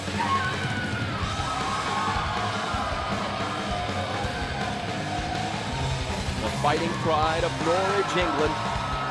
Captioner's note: crowd cheering